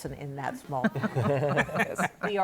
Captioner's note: laughter